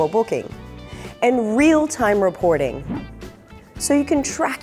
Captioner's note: air whooshes